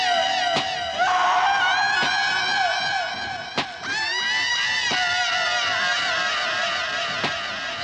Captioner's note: screaming continues, echoing